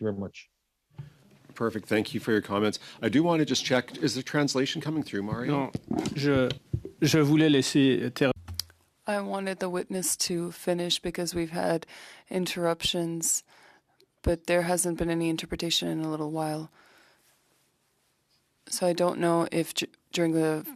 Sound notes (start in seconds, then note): 13.3 speaking French